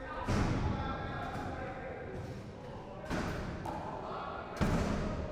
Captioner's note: pounding and slamming sounds